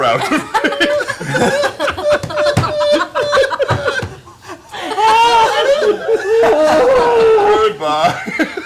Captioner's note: laughter